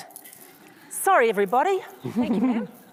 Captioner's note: audience laughs